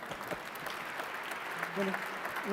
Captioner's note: applause